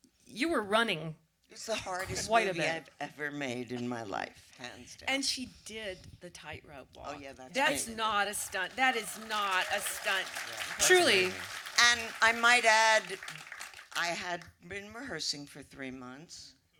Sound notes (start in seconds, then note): 7.6 audience applause